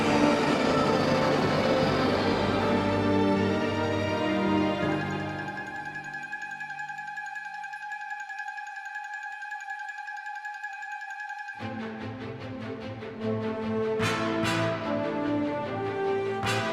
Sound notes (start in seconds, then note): 0.0 train hissing; 9.3 bright music; 13.6 dramatic music